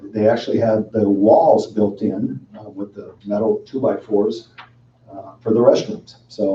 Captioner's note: none